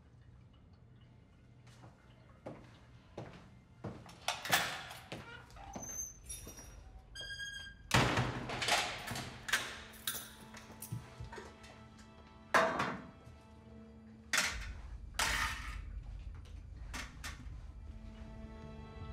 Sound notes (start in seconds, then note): 0.1 somber orchestral music; 3.7 lock clicks; 4.3 door creaks; 7.9 door slams; 8.4 lock clicks